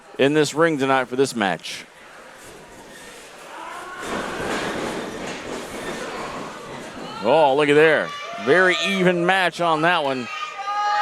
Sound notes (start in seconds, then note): 2.9 wrestler scream